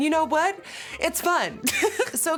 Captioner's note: laughter